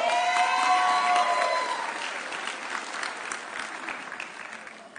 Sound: audience cheering

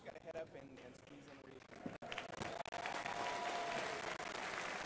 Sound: crowd applauding

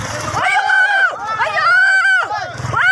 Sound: shouting

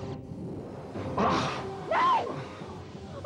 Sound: groans

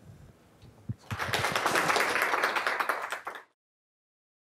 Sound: applause

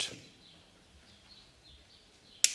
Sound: birds chirping; cracking

